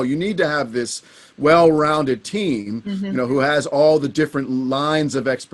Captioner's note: hums in agreement